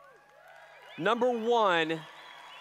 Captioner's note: applause